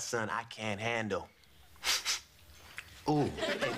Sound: sniffs

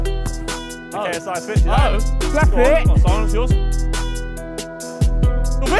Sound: players clamouring

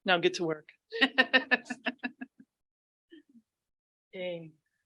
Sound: board members laughing

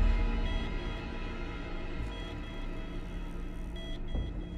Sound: hospital monitor beeping

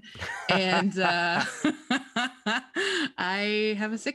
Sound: laughs

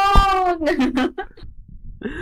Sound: laughing

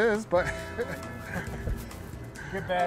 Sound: laughing

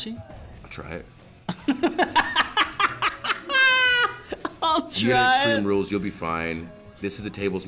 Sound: laugh

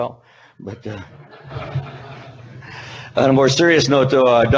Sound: audience laughing

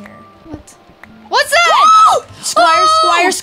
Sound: both screaming

